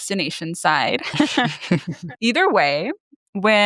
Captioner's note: both laughing